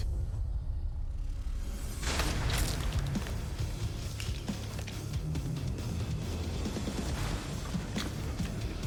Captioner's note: blade impacts